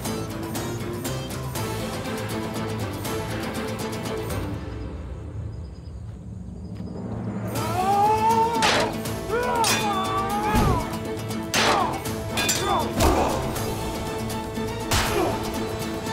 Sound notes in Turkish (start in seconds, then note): 0.0 Müzik - Hareketli; 7.5 Savaş sesleri; 15.5 Müzik - Hareketli